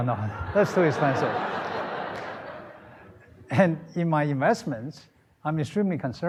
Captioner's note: laughter